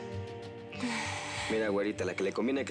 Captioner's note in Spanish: ella exhala